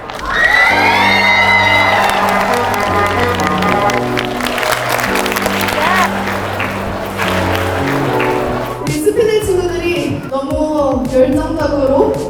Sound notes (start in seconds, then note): 1.9 thunderous applause for the epic finale